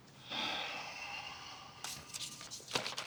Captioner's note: sighing